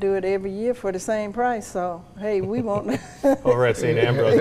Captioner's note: laughs